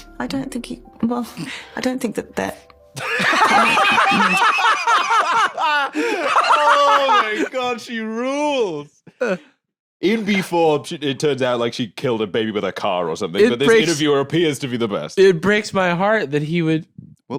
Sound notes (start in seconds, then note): 3.0 both laughing